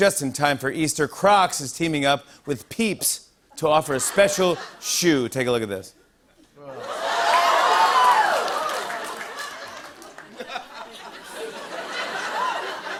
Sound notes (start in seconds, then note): 6.7 audience "Oohs"; 11.4 laughter